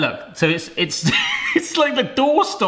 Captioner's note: laughing